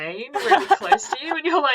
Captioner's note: laughs